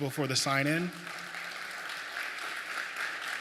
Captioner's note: applause